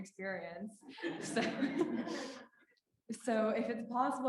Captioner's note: laughing